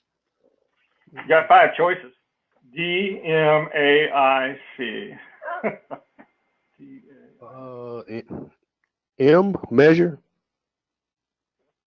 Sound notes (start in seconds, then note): 4.6 laugh